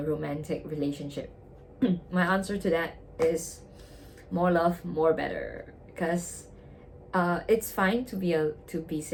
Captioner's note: clears throat